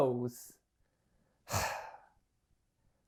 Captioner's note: sighs